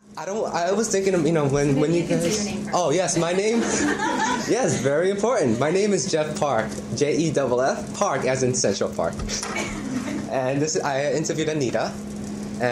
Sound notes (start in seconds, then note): 3.5 laughter; 9.4 laughter